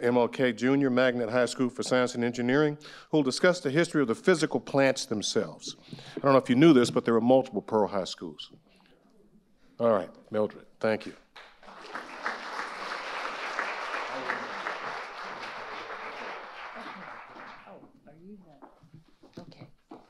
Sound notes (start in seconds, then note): 11.3 audience applauding